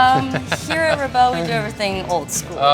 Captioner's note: laughing